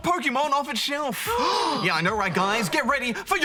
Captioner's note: gasp